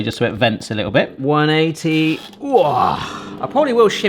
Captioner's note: groans